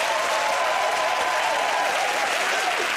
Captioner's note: cheering and applause